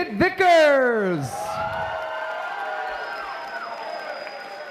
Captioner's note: applause